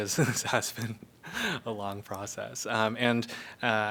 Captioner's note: laughter